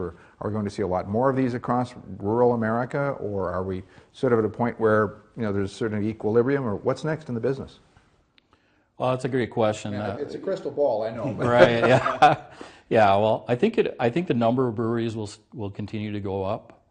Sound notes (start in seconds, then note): 11.2 laughs